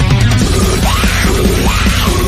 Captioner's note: laughs